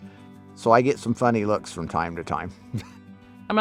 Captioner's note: chuckles